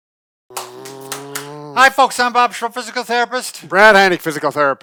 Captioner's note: clapping